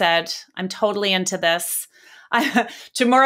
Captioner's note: chuckles